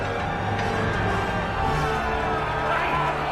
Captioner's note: shouting